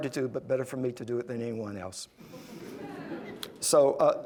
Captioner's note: laugher